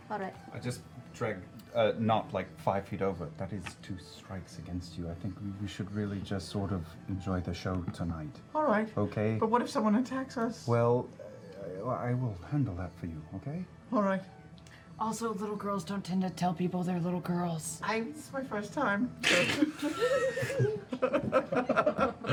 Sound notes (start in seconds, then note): 19.3 laughter